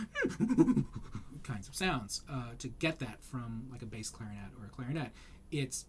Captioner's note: mock chimpanzee sounds